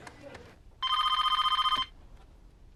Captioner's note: PHONE RlNGlNG